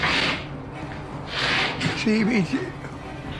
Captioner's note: mumbles